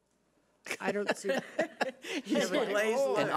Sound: laughs

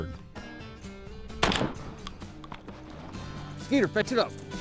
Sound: gunshot

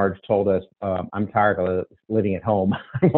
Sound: chuckles

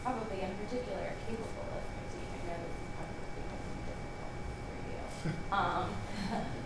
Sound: speaking faintly

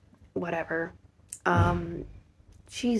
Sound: thud

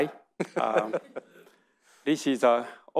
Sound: audience laughing

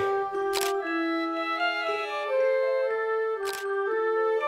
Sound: camera snapping

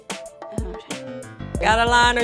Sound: whispers

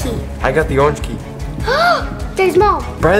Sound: gasp

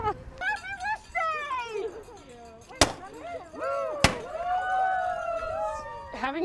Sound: cheering, confetti cannons popping

